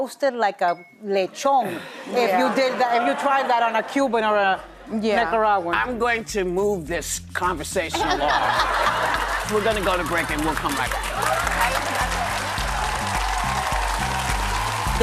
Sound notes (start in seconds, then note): 8.0 audience laughs; 11.5 audience applauds